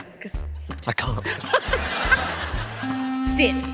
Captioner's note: laughs